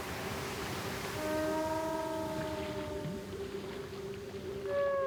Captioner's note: whales calling